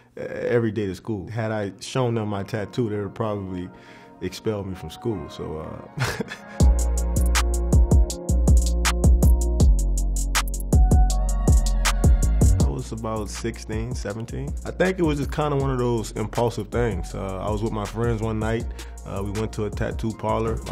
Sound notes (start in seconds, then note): 6.0 laughs; 6.5 hip hop music